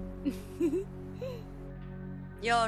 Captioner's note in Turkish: Gülüyor